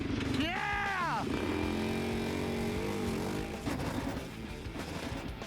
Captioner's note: engine roaring